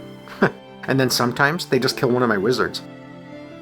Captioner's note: chuckles